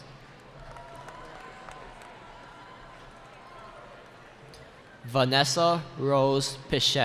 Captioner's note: cheering